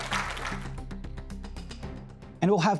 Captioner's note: applause